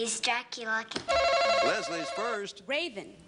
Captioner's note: buzzer buzzes